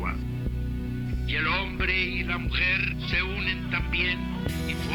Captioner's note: person speaking Spanish